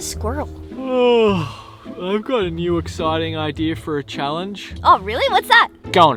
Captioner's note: yawns